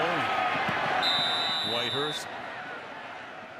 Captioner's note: whistle blowing